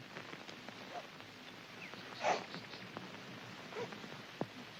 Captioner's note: Felinchen Cries